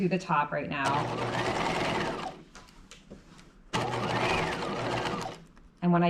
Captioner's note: sewing machine whirring